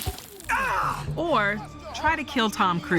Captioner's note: yells